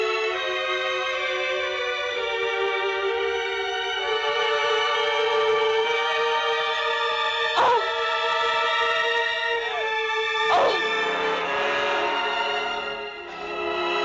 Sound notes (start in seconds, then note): 1.7 suspenseful music continues; 8.1 Janet grunting; 8.1 suspenseful music continues